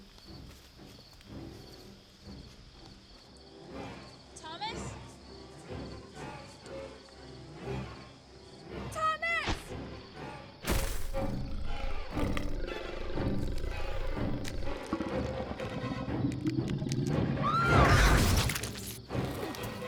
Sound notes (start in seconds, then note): 5.3 suspenseful music; 10.6 thudding; 11.1 snarling; 17.3 screaming